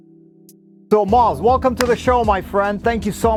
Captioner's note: claps